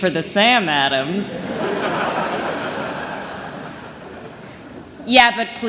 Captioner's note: laughter